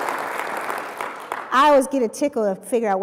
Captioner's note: applause